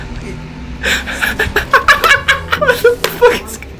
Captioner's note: cackling